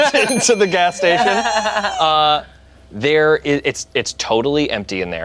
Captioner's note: group laughs